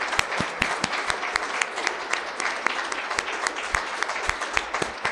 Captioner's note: audience clapping; clapping